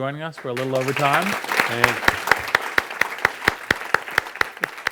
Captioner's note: audience claps